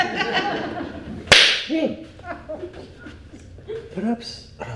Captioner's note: chef claps